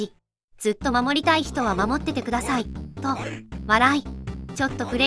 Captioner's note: laughs